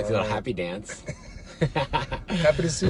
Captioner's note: laughing